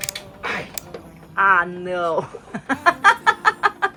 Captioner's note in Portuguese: risadas